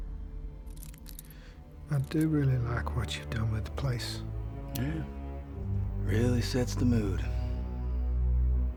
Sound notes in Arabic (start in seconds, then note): 4.7 يقول بسخرية